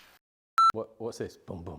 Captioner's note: jumbled workspace noises; audio beeping